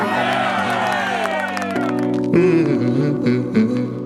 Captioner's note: claps and yells; inspirational music